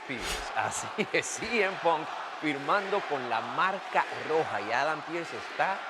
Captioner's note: laugh